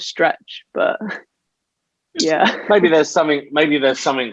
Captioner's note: laughs